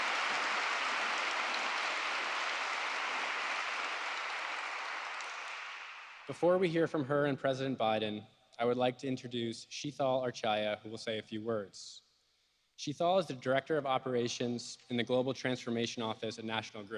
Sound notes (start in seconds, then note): 7.0 applause